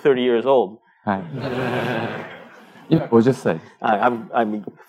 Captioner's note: speaking japanese